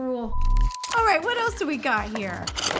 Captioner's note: beep